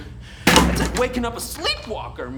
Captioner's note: drumsticks slam